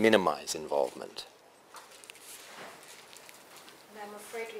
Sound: pause

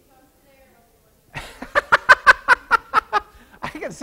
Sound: laughs

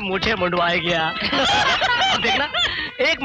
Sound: all Laughing

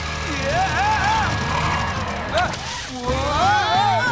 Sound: yelling

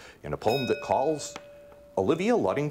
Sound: bell ringing

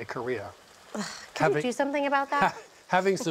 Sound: sighs

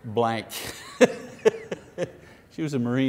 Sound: laughing

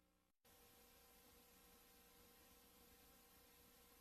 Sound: VHS static

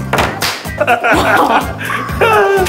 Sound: laughing

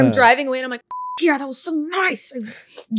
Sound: beep

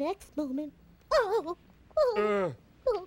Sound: moans

